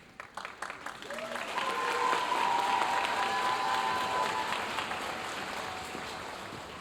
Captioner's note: audience continue cheering and applauding